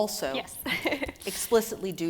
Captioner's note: laughs